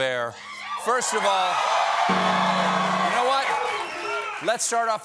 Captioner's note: cheers and applause; piano riff